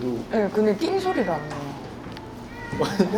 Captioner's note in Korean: 이때 들려오는 고양이 울음소리